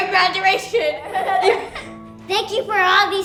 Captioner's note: kids laughing